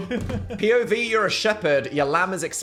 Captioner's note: laugh